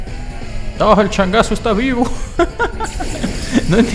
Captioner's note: laughs in Spanish